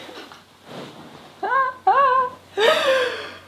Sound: laughing

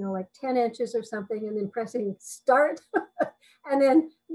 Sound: chuckles

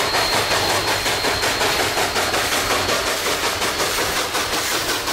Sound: chugging

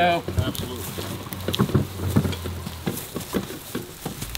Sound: leaves crunching

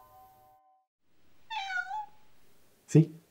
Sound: cat meow

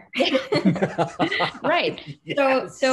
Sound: all laughing

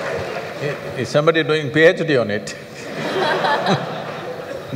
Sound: laughter

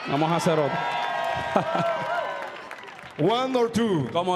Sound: audience cheering

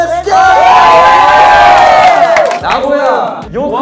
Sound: shouting everywhere

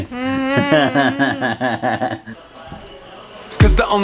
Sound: laughs

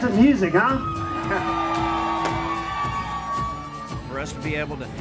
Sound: crowd cheering

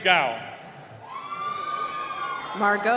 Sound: cheering

